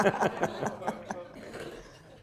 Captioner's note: laughter